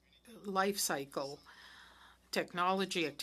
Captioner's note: speaking French